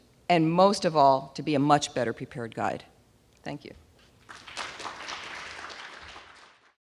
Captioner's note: applause